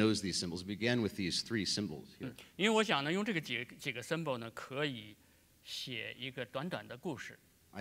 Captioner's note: speaking in Chinese